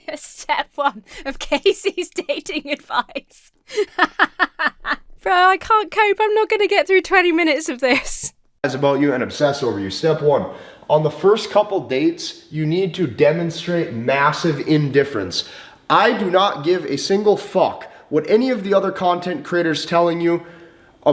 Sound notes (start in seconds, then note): 2.8 laughs